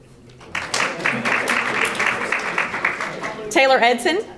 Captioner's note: audience applauding